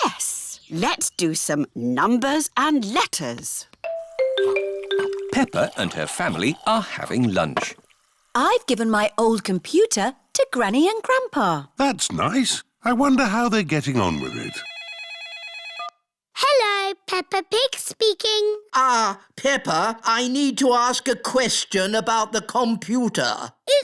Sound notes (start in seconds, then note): 14.0 phone rings